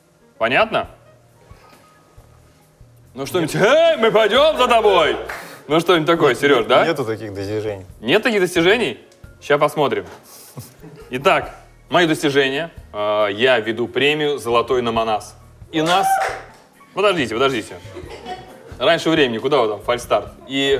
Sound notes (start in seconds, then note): 15.9 cheering